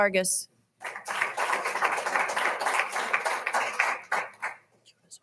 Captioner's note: all applauding